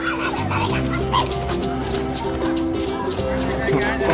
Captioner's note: children chattering